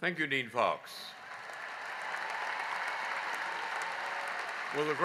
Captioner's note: applause